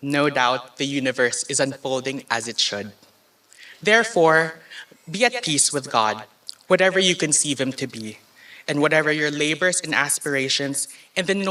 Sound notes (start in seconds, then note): none